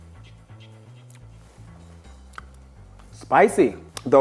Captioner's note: smacking lips